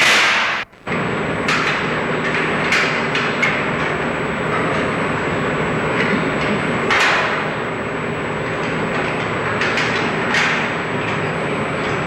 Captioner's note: construction noises and chains clanging